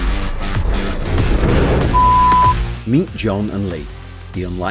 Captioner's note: rocks crash